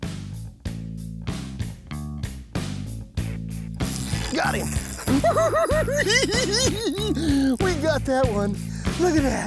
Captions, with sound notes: Got him! [giggles] We got that one. Look at that.